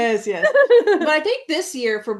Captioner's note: laughs